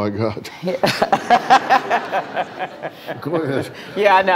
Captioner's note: laughing